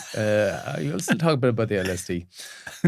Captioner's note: laughing